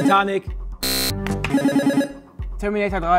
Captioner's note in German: Buzzer